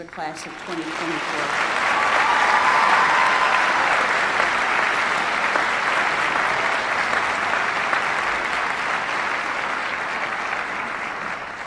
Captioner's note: applause